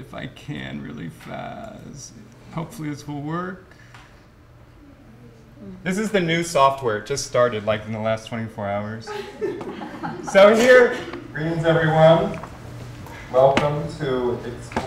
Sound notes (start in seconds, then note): 9.0 laughter